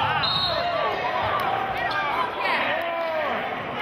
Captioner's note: whistling